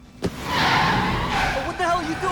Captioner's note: tires screeching